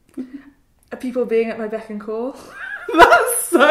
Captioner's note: laughs